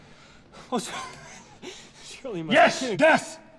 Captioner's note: laughs